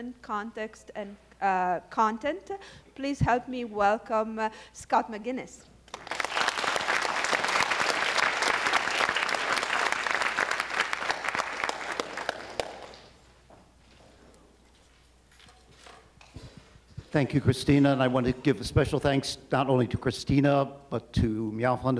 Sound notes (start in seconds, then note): 5.8 applause